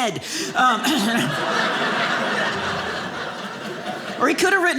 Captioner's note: audience laughing